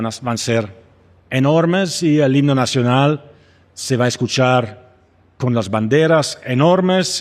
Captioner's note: speaking Spanish